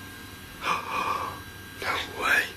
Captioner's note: gasps